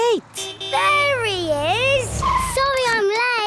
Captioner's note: honking